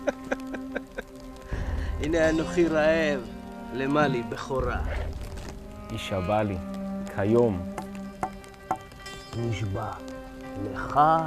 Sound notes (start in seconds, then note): 1.7 laughing